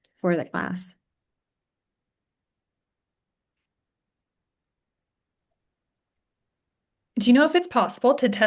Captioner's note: silence